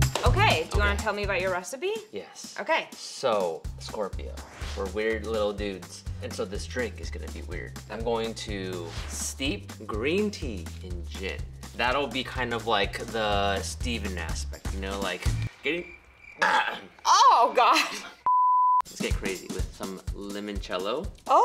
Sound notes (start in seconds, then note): 15.0 crickets; 15.7 clears throat